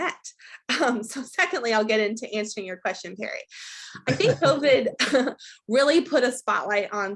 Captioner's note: both laugh